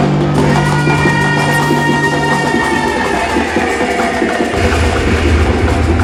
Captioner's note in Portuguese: grito